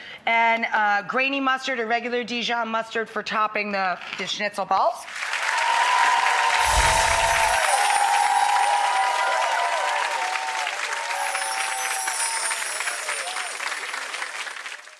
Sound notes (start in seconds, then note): 5.4 audience cheering